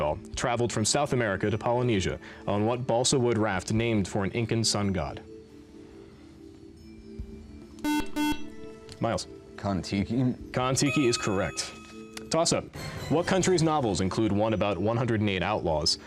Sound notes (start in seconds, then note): 5.4 soft music; 7.8 beep